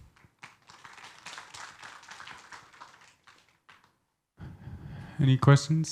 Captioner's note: audience applauds